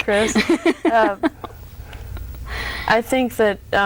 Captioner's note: laughs